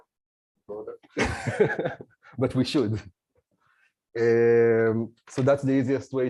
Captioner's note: laughs